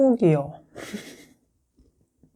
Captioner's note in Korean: 웃음